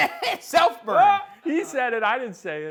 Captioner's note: laughs